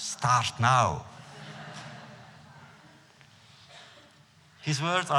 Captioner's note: laughter